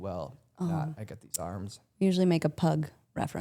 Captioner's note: Stephanie laughs